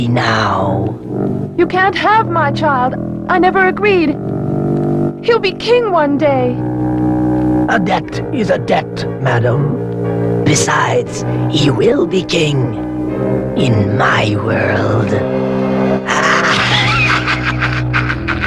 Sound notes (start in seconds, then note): 16.0 cackles